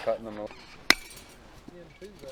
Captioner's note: mesh cracks; indistinct background chatter